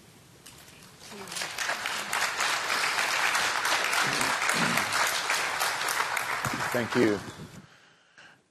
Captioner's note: applause